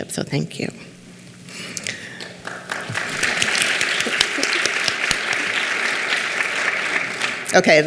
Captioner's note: clapping